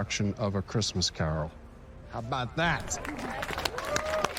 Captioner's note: cheering